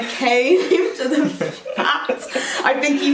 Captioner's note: both laugh